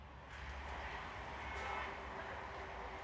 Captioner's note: traffic noise